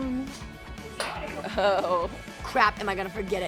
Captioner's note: laughing